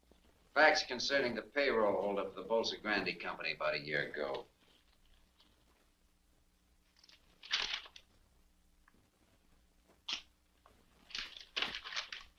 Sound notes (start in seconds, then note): 7.0 paper flicks; 9.6 match strikes